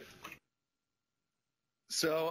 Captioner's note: pause